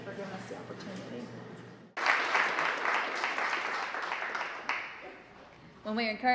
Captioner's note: applause